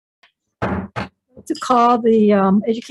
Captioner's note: gavel thudding